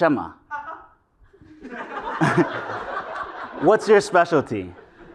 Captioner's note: laugh